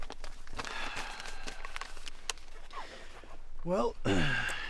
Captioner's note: sighs; clears throat